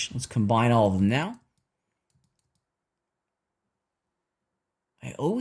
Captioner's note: silence